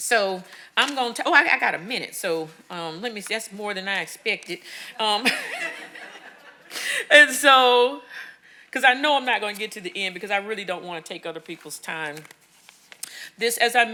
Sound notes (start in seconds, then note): 5.2 audience laughing